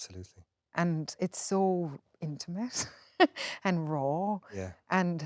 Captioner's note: laughs